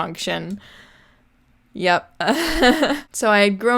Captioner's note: laughs